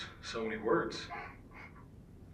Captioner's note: Wyatt laughs